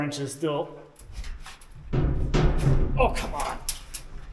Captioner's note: cyclone thudding